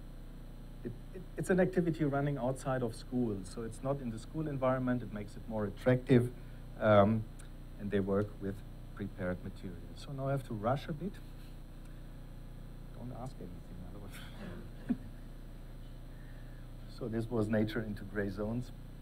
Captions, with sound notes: it's an activity running outside of schools. So it's not in the school environment. It makes it more attractive and they work with prepared materials. So now I have to rush a bit. Don't ask anything, otherwise (laughs). So this was Nature into gray zones.